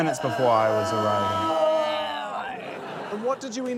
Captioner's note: women groan